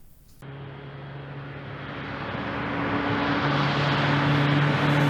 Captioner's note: airplane engine revving